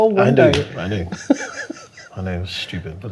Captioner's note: laughing